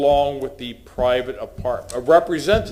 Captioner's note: sounding gavel